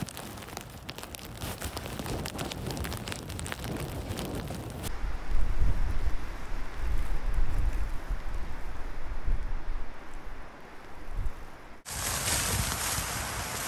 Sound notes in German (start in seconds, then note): 6.1 Windgeräusch